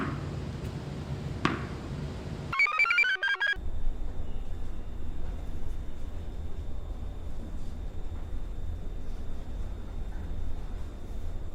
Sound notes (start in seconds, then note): 2.5 computer chirps